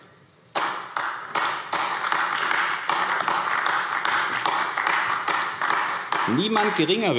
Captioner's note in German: Beifall AfD